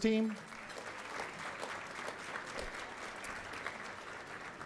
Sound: applause

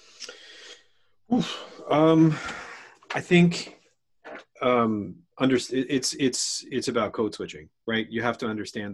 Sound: sighs

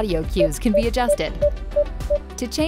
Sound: PDW beeping

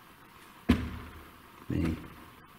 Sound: shoes shuffling

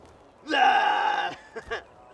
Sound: imitates a Grizzly roaring sound

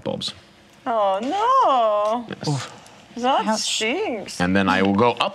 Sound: imitates German accent

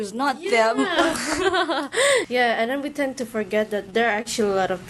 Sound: laughter ensues

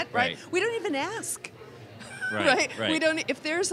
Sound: laughs

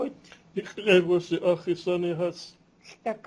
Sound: non-english speech

